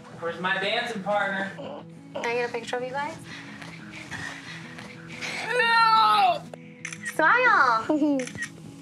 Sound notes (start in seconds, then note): 5.4 groaning; 7.8 giggling; 8.1 camera shutter clicking